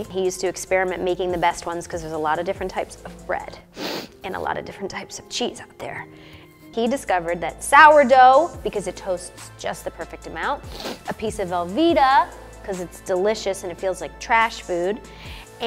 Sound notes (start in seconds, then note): 3.7 sniffs; 3.9 somber music; 6.8 upbeat music